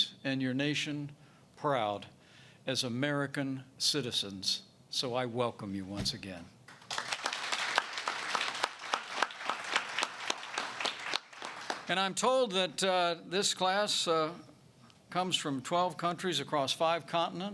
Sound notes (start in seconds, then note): 6.7 applause